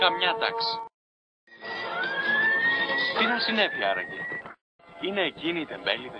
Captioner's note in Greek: Ακούγονται σειρήνες